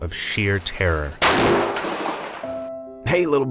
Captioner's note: gunfire